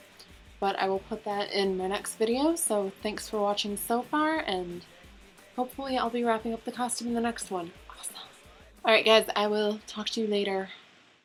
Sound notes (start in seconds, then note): 7.8 whispers